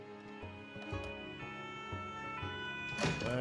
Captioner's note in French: sirènes de police